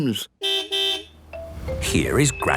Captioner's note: car beep